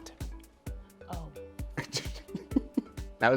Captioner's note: chuckling